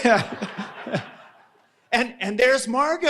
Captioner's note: audience laughing